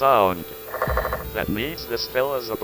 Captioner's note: Shelter's clicks.wav